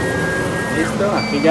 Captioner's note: laser cutting